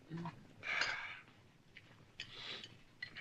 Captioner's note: sighing